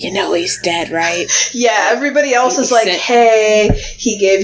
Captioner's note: laughs